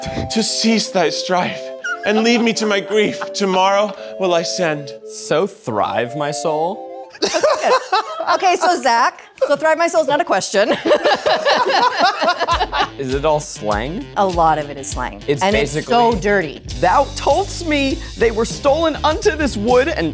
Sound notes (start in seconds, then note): 7.2 actors laughing; 10.7 all laughing